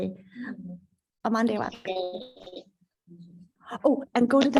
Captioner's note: indigenous speech